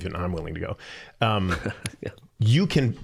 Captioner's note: chuckling